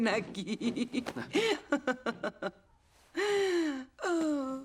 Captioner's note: laughs